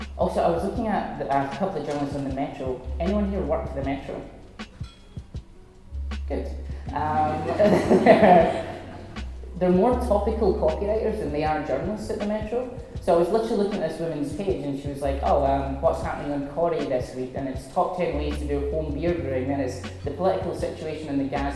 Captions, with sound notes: Also, I was looking a couple of journalists in the Metro, and anyone here work for the Metro? Good! (laughs) They're more topical copywriters than they are journalists at the Metro. So, if you were looking at this woman's page and she was like "Oh what's happening in "Corrie this week?" And it's top ten weeks to do home beauty, and then it's the political situation in the Gaza Strip.